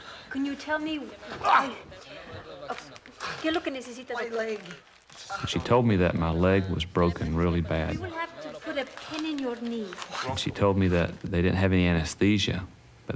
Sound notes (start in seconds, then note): 2.8 speaking spanish